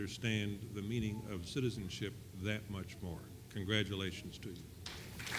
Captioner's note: applause